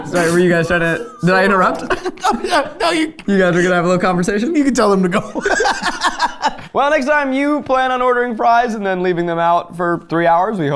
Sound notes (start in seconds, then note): 3.3 laughing; 4.7 laughing